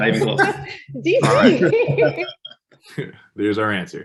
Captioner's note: all laugh